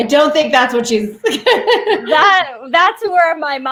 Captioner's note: laughing; laughs